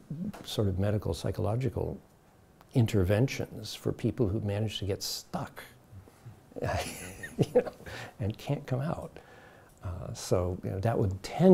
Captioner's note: chuckles